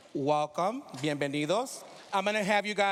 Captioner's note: speaking spanish